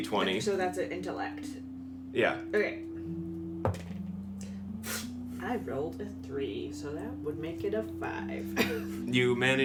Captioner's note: rolls, sighs